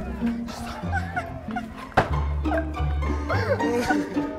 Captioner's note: Sobbing